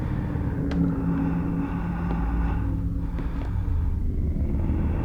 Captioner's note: man breathing